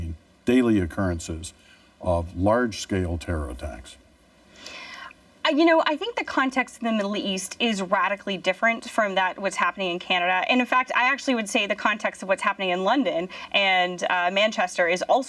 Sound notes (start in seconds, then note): none